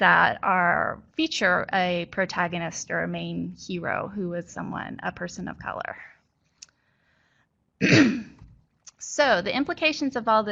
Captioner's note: clears throat